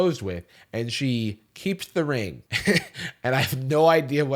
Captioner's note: chuckles